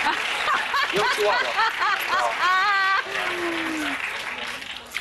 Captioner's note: laughter